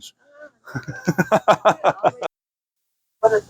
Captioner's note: laughing